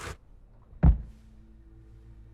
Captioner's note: suitcase thuds